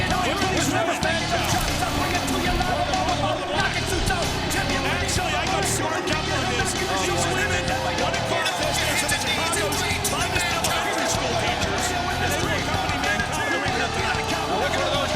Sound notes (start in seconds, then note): 2.0 commentators chattering; 2.0 hard rock music